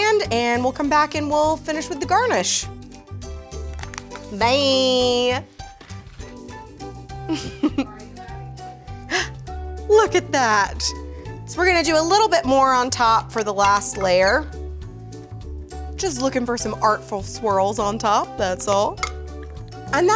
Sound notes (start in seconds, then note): 7.2 laughing